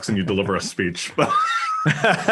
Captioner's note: laugh